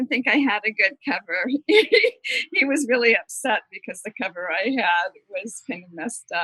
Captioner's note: laughter